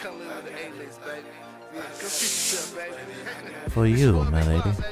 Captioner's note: drinks slide